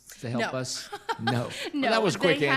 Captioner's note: laughs